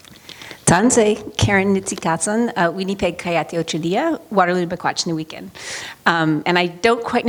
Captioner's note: speaking in Cree